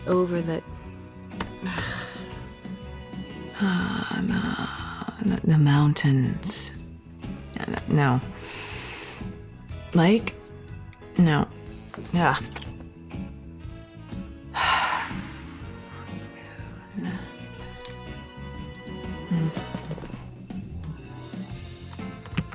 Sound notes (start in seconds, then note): 0.0 typing resumes; 1.6 typing; 14.5 sighs